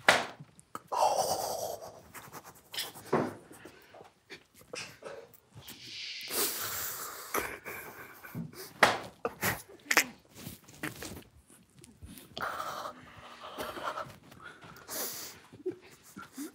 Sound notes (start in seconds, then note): 2.1 quickly breathing; 5.6 breathes deeply